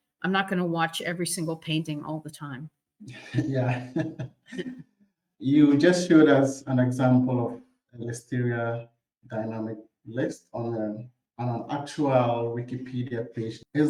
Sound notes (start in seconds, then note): 3.1 chuckles